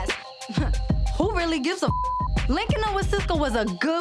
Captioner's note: beep